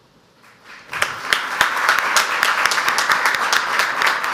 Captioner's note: audience applauds